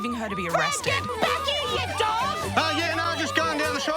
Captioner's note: in background, yells